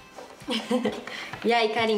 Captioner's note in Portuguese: risos